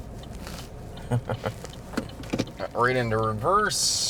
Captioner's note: car turn signal clicking